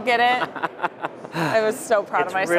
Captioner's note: laughs